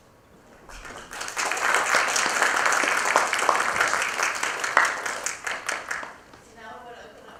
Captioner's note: applause